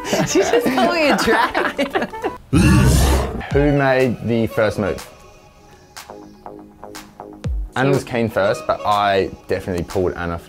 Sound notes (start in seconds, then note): 0.0 laughing; 2.5 roaring